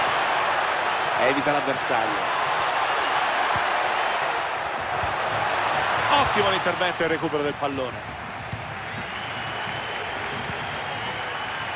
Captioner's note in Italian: Applauso